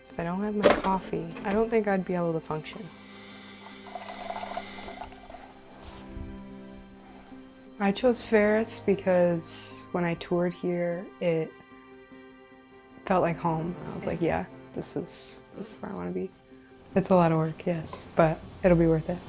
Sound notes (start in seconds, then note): 3.4 coffee dripping